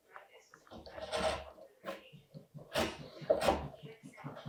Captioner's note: wood scraping